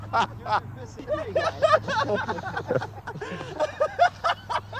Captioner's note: laughs